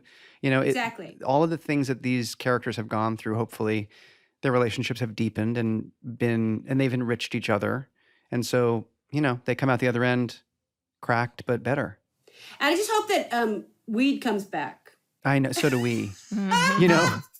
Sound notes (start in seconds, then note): 15.6 laughs